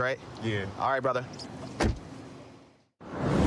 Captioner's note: door shuts